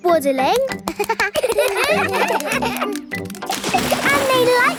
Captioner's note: children laugh